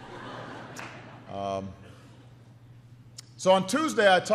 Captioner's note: laughter